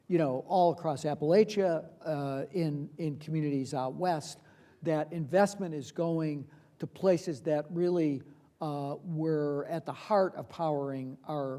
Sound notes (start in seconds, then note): none